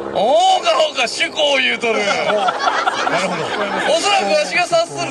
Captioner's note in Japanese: 客 笑・笑・笑